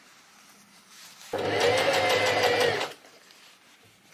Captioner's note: sewing machine surges